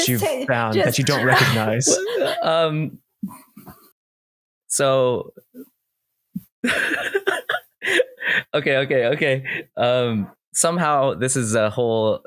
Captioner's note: stammers